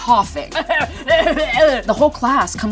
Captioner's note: coughing